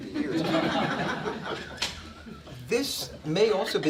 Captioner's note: laughing